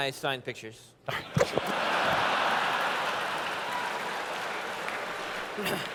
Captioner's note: laughter